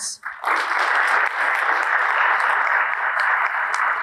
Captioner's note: audience applauding